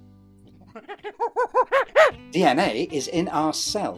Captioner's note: chimp hooting